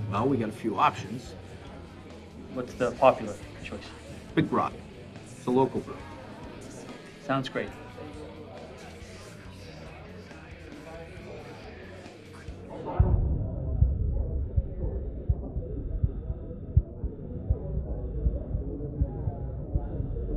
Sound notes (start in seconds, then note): 8.5 patrons chattering; 12.9 distorted and muffled chatter over panting breaths